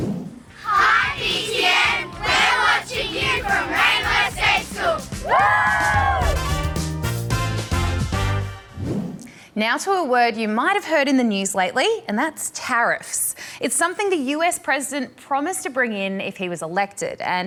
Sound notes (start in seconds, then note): 5.1 all whoop